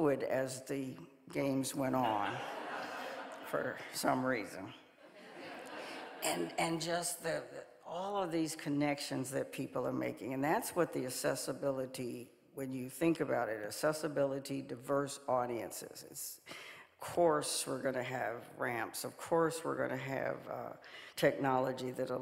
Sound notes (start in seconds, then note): 5.1 audience laughing